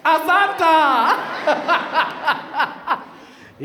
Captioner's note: laughs